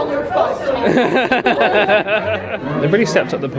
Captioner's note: both laugh